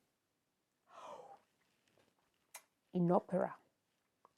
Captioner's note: awkward silence; more awkward silence